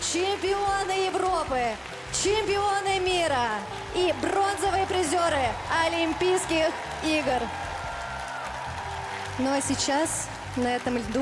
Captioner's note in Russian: ликование